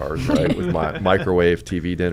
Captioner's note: laugh